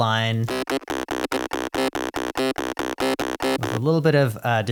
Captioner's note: pulsing, zappy, rhythmic sounds